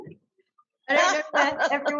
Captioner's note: all laughing